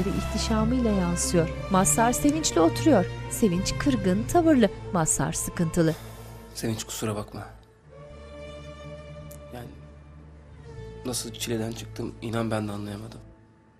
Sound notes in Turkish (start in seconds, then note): 5.9 Nefes sesi